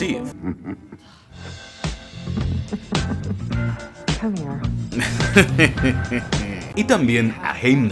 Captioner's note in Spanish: risas juguetonas